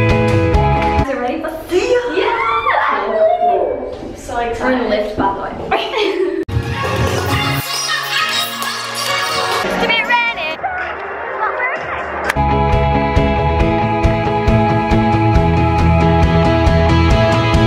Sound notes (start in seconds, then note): 2.2 cheering; 5.7 laughs